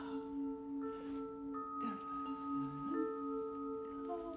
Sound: continues humming

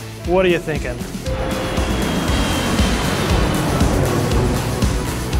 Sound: airplane noises

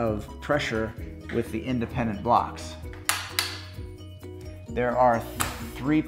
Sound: carrier locking

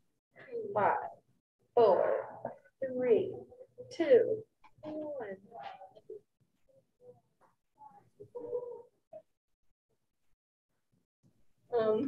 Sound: chuckling

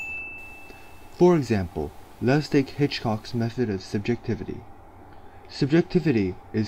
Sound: ding

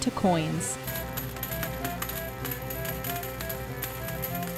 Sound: coins clanking

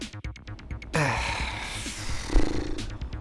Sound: groaning

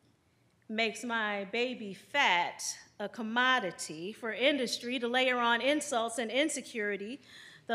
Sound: none

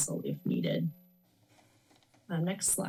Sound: pause

